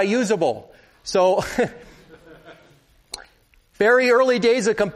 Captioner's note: laughter